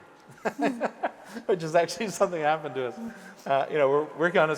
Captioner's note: laughs